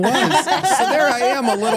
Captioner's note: laugh